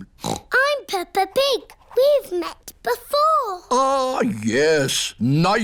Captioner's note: snorts